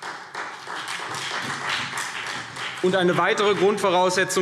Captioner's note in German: Beifall CDU und BÜNDNIS 90/DIE GRÜNEN